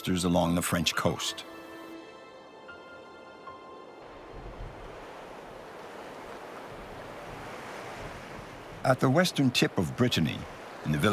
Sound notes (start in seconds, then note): 2.0 soft music; 2.0 waves crashing